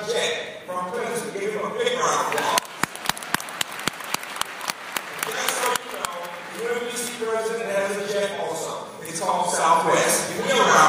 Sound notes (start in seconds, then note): 2.3 applause